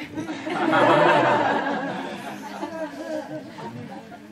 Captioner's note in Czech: smích